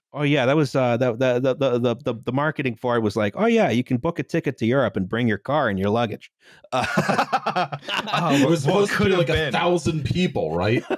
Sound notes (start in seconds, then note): 6.7 all laughing